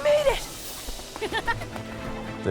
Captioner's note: giggling